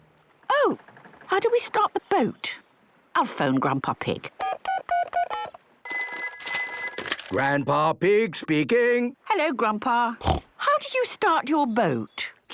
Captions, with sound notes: - Oh... How do we start the boat? I'll phone Grandpa Pig. - (dial tones beeping) - (ringing) - Grandpa Pig speaking. - Hello, Grandpa. Snort! How do you start your boat?